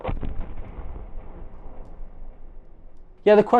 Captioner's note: thunderous booming